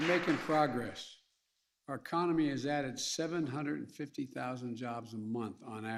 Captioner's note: applause